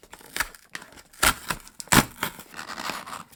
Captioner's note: cardboard ripping